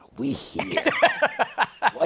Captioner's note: laughter